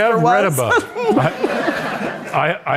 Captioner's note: all laughing